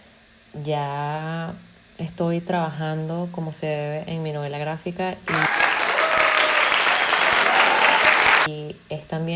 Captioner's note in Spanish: Aplausos